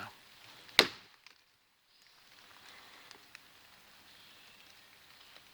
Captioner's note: stick thuds against tree